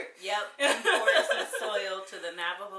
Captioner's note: laughs